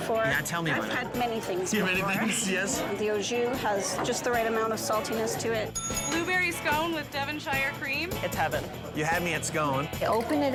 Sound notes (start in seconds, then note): 5.7 bell dings